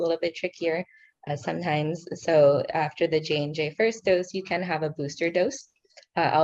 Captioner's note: speaking in foreign language